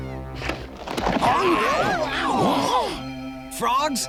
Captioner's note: shrieking